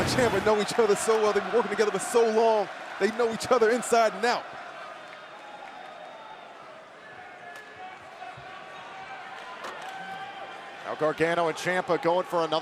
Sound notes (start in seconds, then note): 8.3 crowd chatter